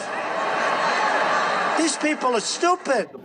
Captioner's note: laughing